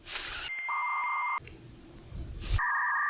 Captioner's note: dial-up modem connecting